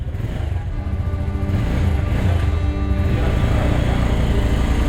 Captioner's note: engine revs